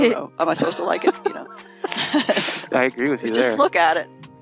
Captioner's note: laughing